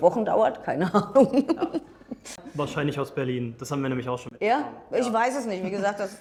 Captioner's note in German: gelächter